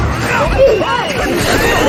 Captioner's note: screaming